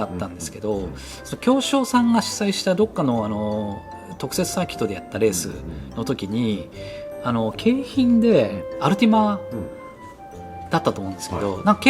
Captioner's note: laughs